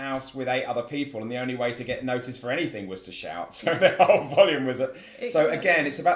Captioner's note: laugh